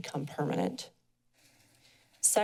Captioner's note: pause